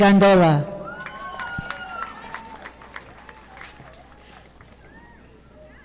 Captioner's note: audience applauding